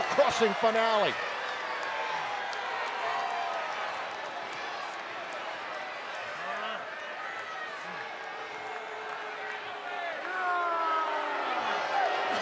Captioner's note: applause